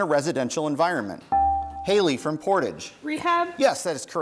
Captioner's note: bell rings